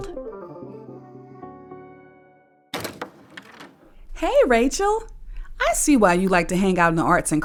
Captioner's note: door opens